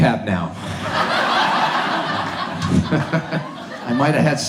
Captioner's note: audience laughs